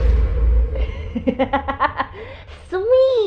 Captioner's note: laughs